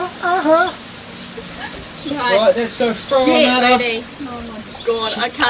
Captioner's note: laughing